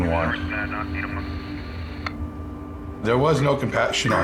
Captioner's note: dispatch radio chatter